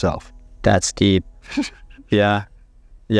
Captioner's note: chuckles